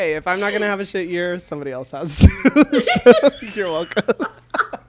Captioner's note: both laugh